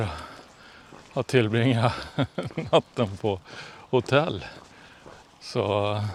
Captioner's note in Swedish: skratt